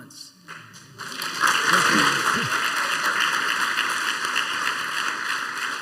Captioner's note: applause